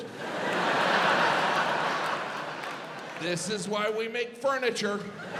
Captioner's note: audience laughs